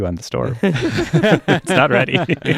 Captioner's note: laughing